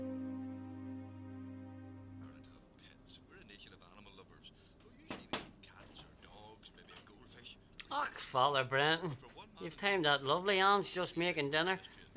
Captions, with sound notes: (T.V. chatter) (door knocking) - Father Brendan, you've timed out lovely Ann's just making dinner.